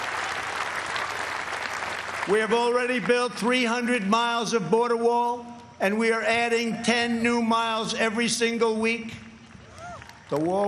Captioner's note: cheers and applause